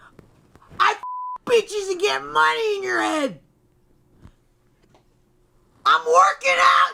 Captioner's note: beep